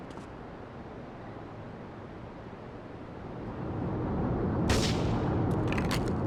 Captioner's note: gun firing